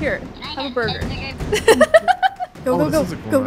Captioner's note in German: Gelächter